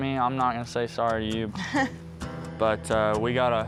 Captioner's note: scoffs